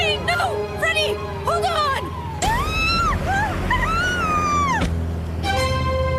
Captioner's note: screaming